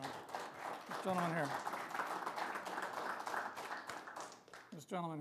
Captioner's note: applause